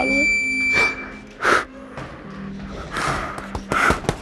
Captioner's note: loud beep; crying